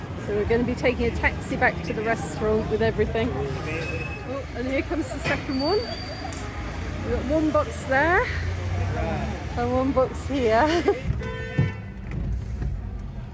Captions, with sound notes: So, we're going to be taking a taxi back to the restaurant with everything. Oh, and here comes the second one. We've got one box there and one box here. [horn blaring]